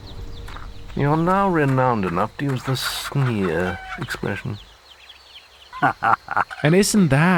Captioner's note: laughs